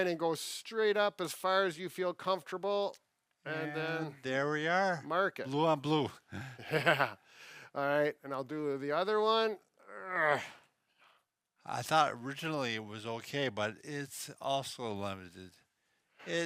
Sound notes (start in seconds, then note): 6.3 laughing; 9.9 grunting